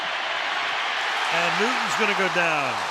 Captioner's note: cheering